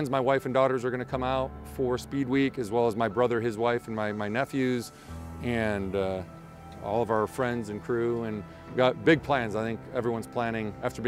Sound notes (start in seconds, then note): none